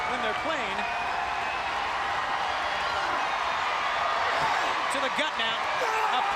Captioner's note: crowd cheering